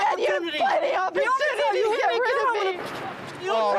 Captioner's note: shouting